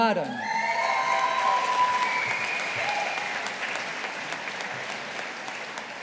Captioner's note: audience applauding